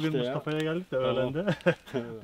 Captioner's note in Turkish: güler